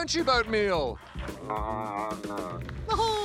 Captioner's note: whines